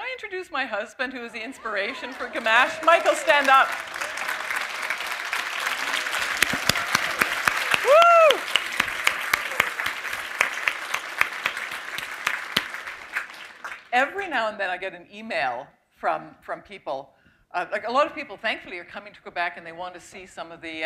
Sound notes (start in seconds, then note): 10.2 applause